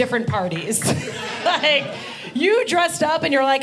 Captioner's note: audience laughing